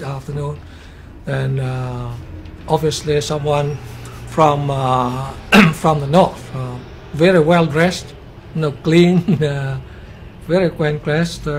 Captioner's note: khụ